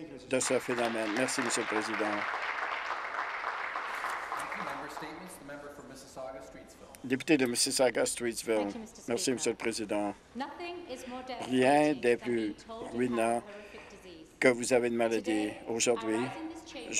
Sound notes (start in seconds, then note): 4.8 some Applause